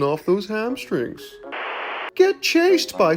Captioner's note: static crackling